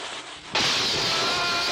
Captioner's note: footsteps; sparks crackling